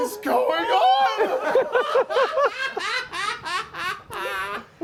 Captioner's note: laughter